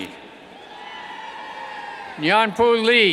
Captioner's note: cheers